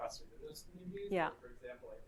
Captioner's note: none